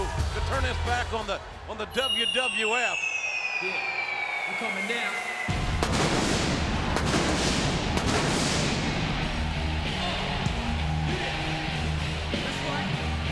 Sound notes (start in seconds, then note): 2.6 fire cracking whistling; 7.2 fireworks booming; 7.2 rock music